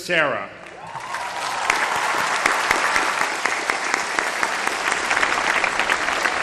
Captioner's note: applause